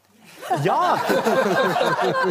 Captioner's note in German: Lachen